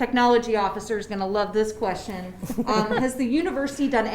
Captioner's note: laugh